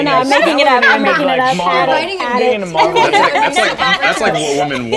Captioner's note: mixed chatter